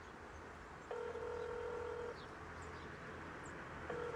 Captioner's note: phone call ringing